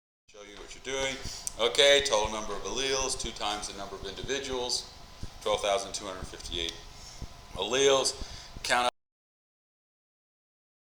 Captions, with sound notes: show you what you're doing. Okay, total number of alleles, two times the number of individuals. 12,258 alleles. Count [mic cuts out]